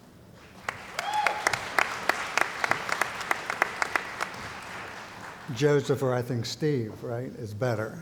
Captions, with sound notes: [ Cheering & Applause ] Joseph or I think Steve, right, is better.